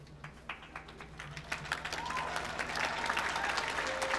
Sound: applause

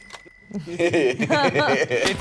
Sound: bell chimes; group laughs

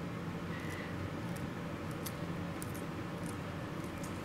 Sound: tissue-cutting sounds

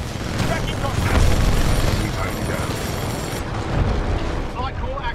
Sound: radio

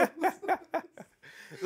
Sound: both laughing

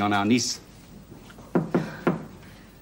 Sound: knocking at the door

